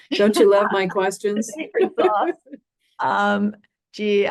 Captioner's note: laughter